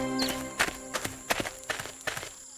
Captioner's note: footsteps